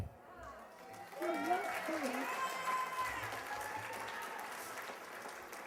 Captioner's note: cheers and applause